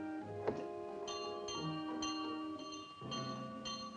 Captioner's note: bell rings